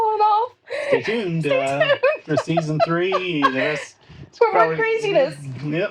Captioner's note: laughing